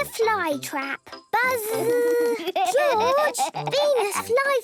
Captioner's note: George laughing